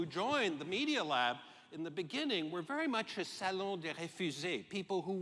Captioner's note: french